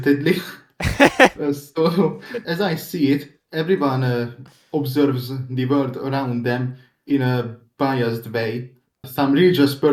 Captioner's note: chuckle